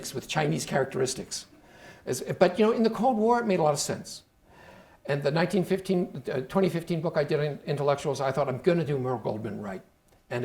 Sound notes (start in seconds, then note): none